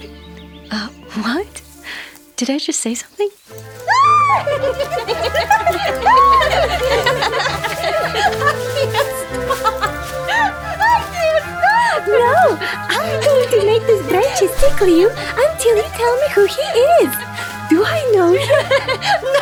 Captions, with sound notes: - Uh, what? Did I just say something? (women giggle) (bright orchestral music) Agnia, stop! - No! I'm going to make these branches tickle you, until you tell me who he is! Do I know him?